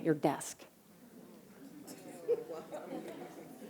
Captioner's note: laughter